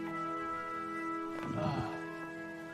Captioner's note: sighs